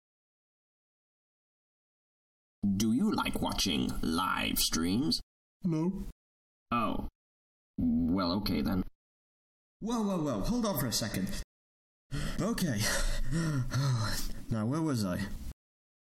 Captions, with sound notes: Do you like watching live streams? No Oh. Well. Okay then. Woah, Woah, Woah. Hold on for a second. Okay (catches breath) Now where was I.